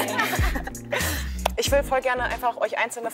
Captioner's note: laughter